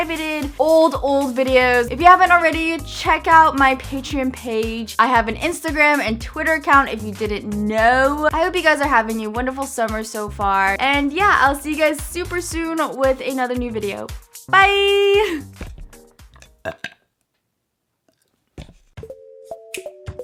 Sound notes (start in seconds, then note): 16.3 burps